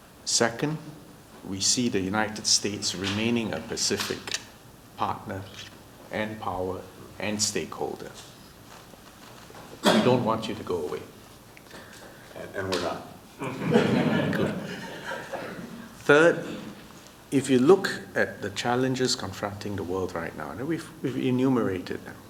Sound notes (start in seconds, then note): 13.4 laughter